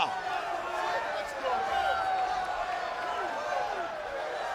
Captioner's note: audience cheering